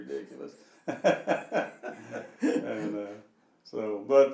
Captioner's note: laughing